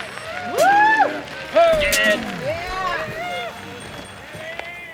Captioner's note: bikers cheering, exclaiming